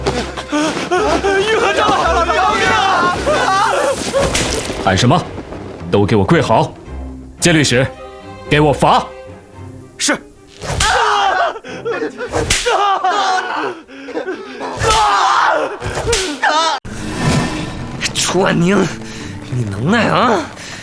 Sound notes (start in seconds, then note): 10.6 sounds of strikes and cries